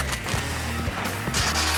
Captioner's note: smooch sound